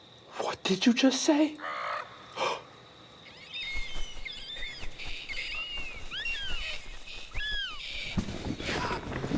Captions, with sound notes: - What did you just say? (Bird squawks) (Sounds of several birds squawking and chirping)